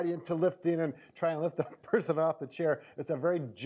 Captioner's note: laughing